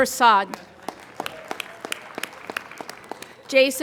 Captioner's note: applauding